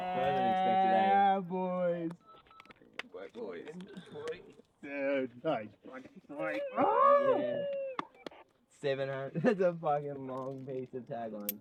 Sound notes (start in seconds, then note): 3.8 cheering